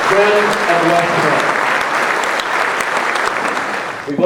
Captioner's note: crowd applauding